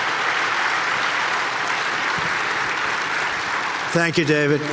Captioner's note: audience cheering